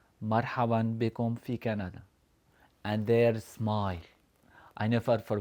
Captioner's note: speaking Arabic